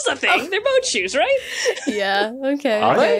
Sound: laughs

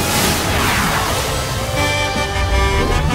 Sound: honking

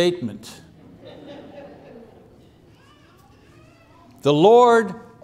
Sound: laughter

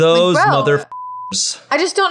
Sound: beep

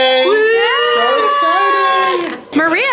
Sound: people cheering

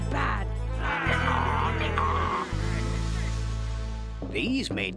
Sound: imitating donkey's hee-haw

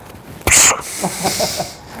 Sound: blows nose; laughing

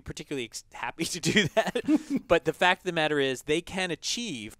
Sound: laugh

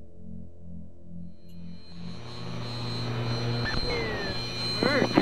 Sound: radio transmission interference

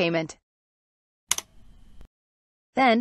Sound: click sound

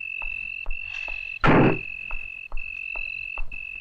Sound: car Door Closes

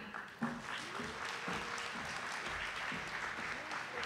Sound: audience applauding

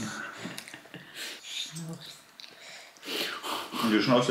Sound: sniffling while eating

